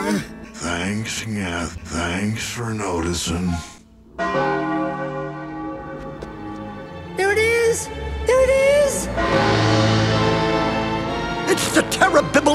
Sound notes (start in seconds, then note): 4.2 bell Chimes; 9.1 bell Chimes